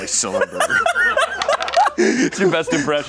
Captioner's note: laughs